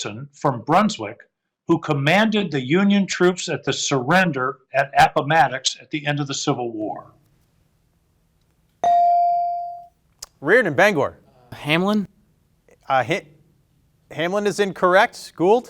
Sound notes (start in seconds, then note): 8.8 bell ringing